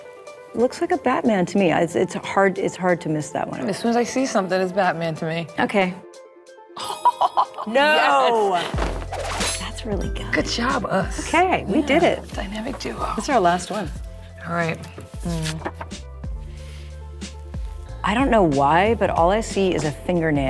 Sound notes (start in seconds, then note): 6.8 laughs; 8.2 batarang clanging